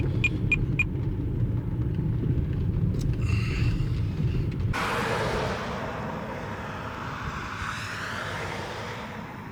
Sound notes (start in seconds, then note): 4.7 car engine revving